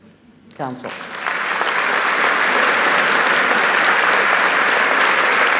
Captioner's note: audience applauding